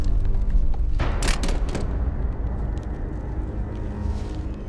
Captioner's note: weapon clatters; ominous music